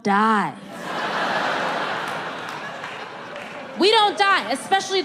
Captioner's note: audience laughs